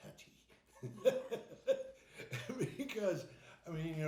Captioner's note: laughing